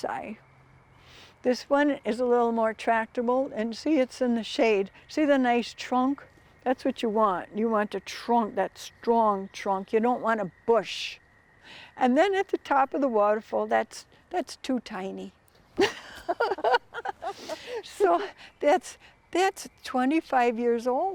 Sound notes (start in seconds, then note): 15.8 both laughing